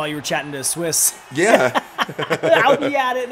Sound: laugh

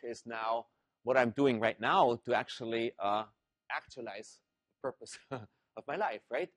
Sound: laugh

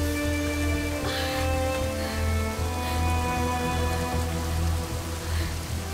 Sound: shivering

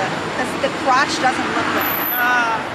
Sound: murmurs

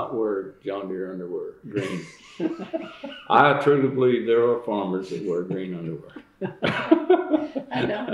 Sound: laughter

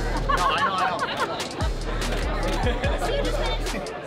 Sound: laughter

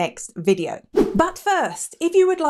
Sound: air whooshing

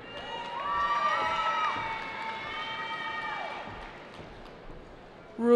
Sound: cheering

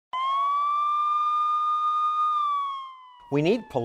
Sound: siren

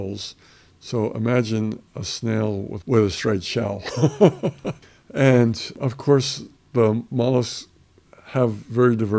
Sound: laughs

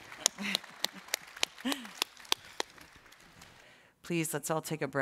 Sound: clapping

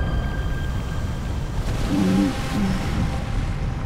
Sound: groaning

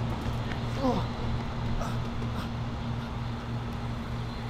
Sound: man groans faintly

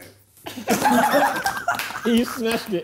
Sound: laughing

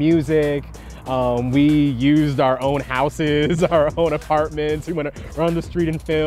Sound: chuckling

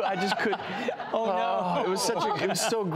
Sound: laughter

